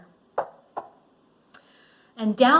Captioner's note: knocks